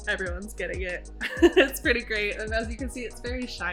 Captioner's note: laughs